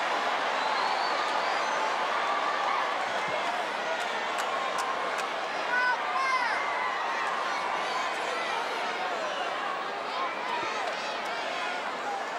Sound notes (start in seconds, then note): 7.4 audience chattering